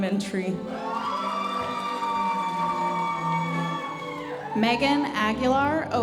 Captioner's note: audience cheering and applauding